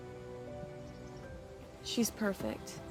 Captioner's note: birds chirping